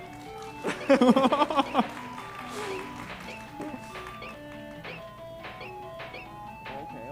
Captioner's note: audience clapping